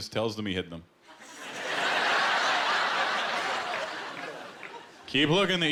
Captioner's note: laughter